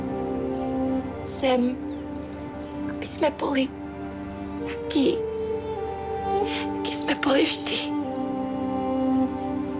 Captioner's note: Speaks Czech